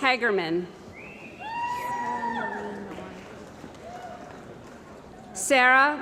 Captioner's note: cheering & Applause